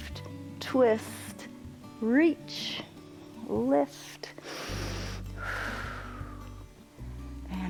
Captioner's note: inhales and exhales